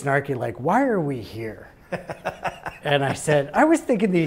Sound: laughs

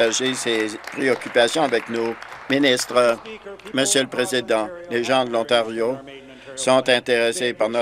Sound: applause

